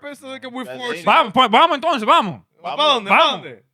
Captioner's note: speaking In Foreign Language